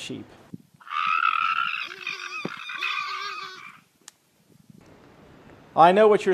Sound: screaming and sheep bleats

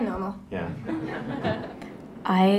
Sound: radio Announcer; crowd laughs

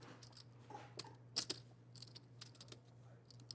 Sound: chips clicking

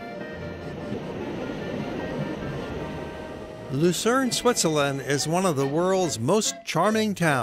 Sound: train noise

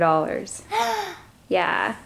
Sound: gasps

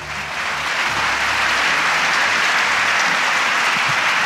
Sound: audience applauding

